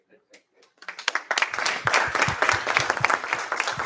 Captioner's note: applause